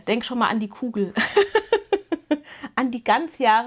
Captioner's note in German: gelächter